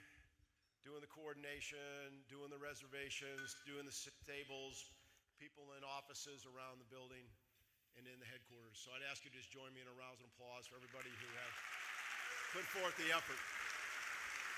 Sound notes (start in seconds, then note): 10.8 audience applauding